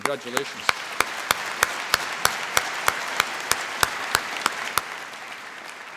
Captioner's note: applause